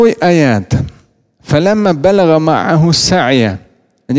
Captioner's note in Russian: Говорит на арабском